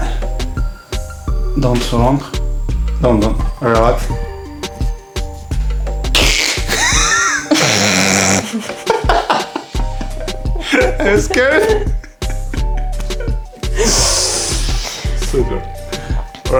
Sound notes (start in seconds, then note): 4.3 laughing